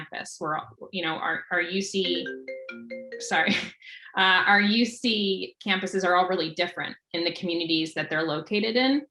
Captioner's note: phone ringing